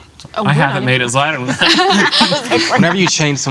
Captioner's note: laughing